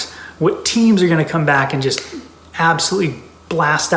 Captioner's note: snaps finger